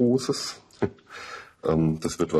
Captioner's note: he laughs briefly